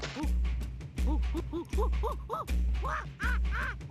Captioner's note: gibbering